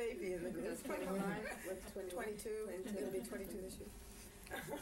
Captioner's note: laughter